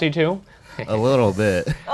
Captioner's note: laughs